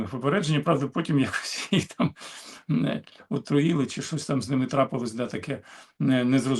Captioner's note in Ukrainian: сміх